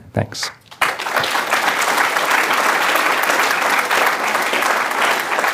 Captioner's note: applause